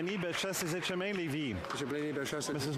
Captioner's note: cheering and Applause